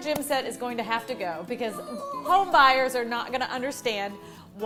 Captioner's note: child wailing